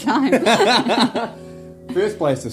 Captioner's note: both laugh